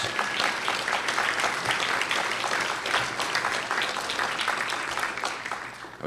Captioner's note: applause